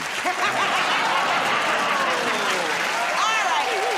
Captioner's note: laughter